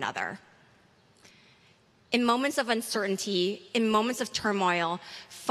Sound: none

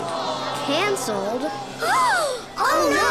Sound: gasping

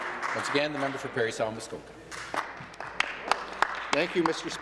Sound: cheering/Applause

